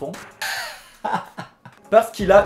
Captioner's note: big laughter